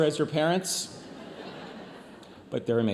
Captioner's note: audience laughs